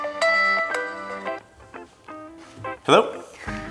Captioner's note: phone continues ringing; phone stops ringing